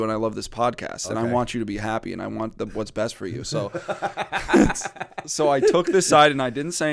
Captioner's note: laughter